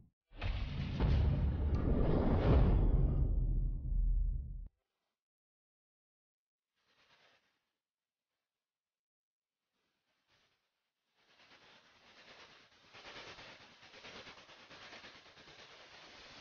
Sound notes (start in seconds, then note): 0.5 epic sounds; 5.6 silence